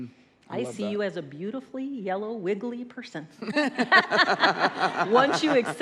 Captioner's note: laughs